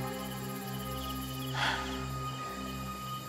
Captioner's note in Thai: เสียงถอนหายใจ